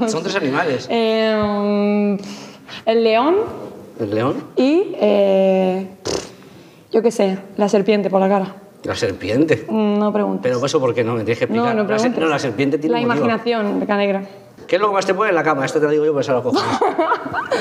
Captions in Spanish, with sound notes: Son tres animales. Eh... El león. El león. Y... Eh... (RESOPLA) Yo qué sé. La serpiente, por la cara. ¿La serpiente? No preguntes. Explícamelo. No preguntes. La serpiente tiene un motivo. La imaginación. "¿Qué es lo que más te pone en la cama?" Esta te la digo yo.